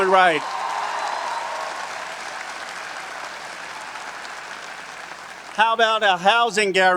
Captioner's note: audience cheering and applauding